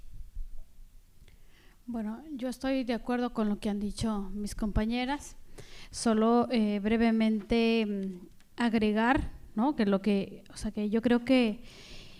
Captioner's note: speaking spanish